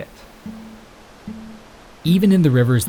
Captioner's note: water gushing